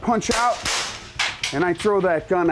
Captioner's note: gun shots